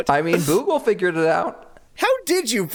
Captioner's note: laughs